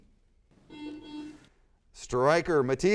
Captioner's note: buzzer sounds